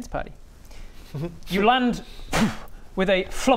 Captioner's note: pwff